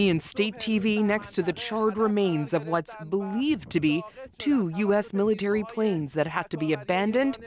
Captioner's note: speaking alternate language